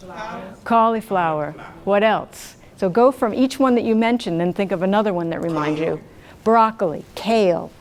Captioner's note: audience shouts various answers; audience shouts answers